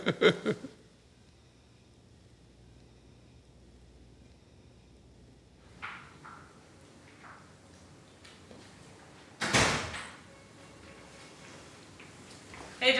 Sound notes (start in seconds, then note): 0.0 laughs; 9.4 door closes